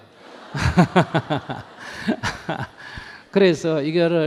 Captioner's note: audience Laughter